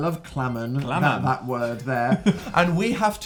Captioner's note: laughs